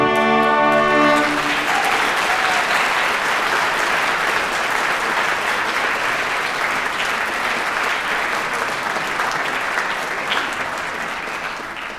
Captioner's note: applause